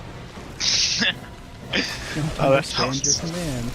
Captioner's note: laughs